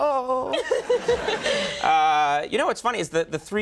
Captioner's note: Jennifer laughs